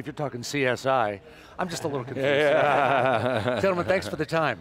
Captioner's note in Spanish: Risas